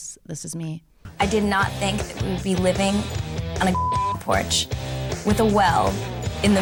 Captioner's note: beep